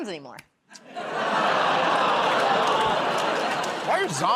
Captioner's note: laughter, groaning